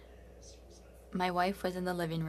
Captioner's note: speaking French